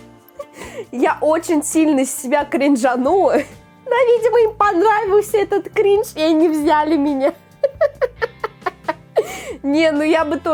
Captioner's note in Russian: смех